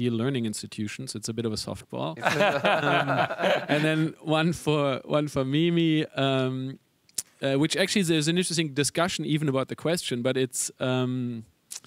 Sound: panelists laugh

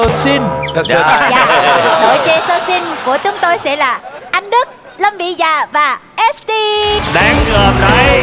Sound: laughing

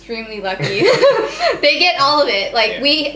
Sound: both laugh

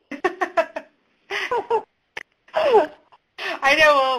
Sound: laughing

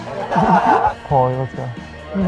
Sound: laughing; group laughing

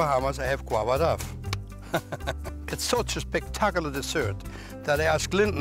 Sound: laughs

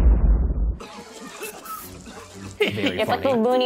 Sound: exploding; coughing

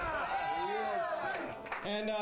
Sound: audience cheering

